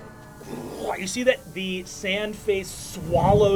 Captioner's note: growls